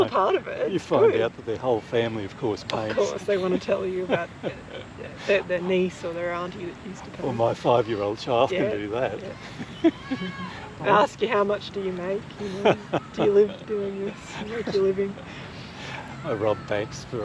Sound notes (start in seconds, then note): 9.7 chuckles